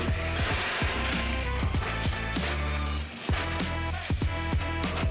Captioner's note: metal grinding